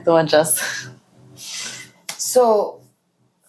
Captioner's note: laughs